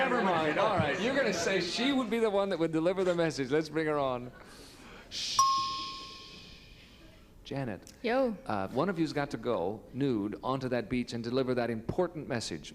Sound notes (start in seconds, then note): 4.6 shushing; 5.4 ding